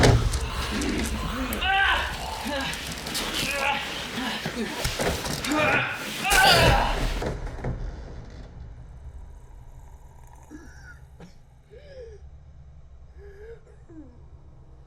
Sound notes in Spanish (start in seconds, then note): 0.0 Jonathan jadea; 1.3 gritos de Jonathan; 6.4 gruñidos de Jonathan; 11.0 gruñidos de Jonathan